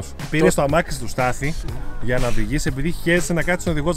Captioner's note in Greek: none